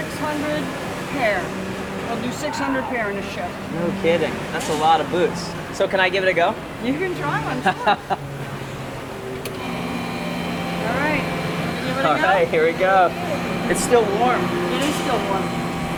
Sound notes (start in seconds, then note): 7.4 laughing; 8.3 machinery whirring